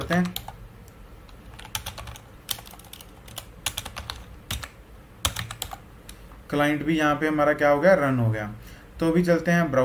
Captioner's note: typing